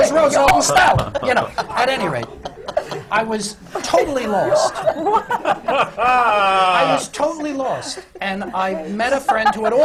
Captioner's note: laughter